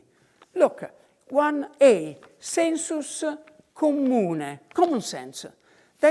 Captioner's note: in foreign language